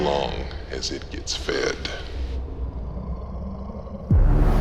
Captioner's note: beast growls